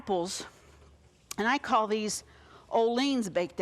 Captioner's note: none